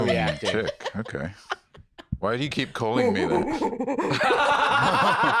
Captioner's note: laughs; making monkey noises